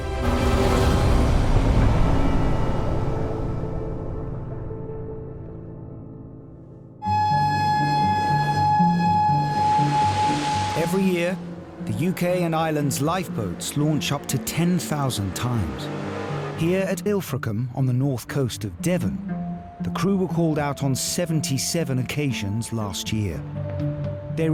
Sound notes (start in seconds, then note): 0.2 intense instrumental music; 0.2 lifeboat engine whirring; 7.1 suspenseful music; 7.1 alarm sounding; 9.9 water splashing; 15.8 lifeboat engine whirring